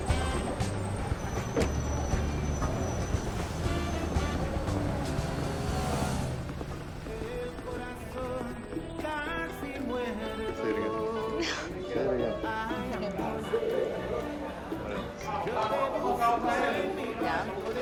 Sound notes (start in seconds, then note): 2.5 upbeat music continues; 10.4 murmurs